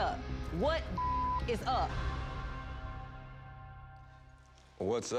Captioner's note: beep